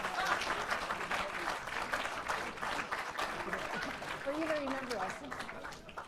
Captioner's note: laugh; applause